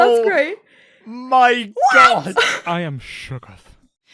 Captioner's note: laughs